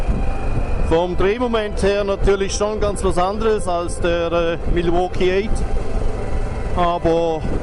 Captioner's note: engine